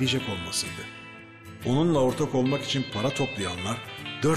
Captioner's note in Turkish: Ahmet dış ses